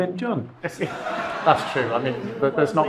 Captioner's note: audience laughs